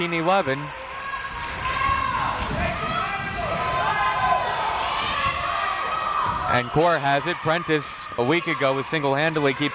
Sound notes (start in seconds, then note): 0.6 crowd members shouting